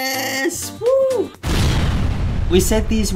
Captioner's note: explosion